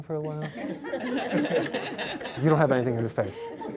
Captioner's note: laughter